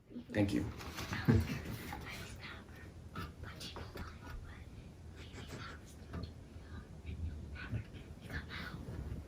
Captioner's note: whispering